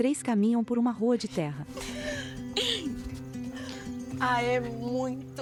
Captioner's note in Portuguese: Risos